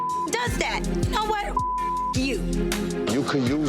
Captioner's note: beep